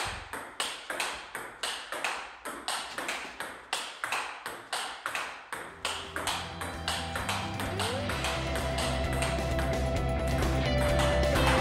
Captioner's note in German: Spielgeräusche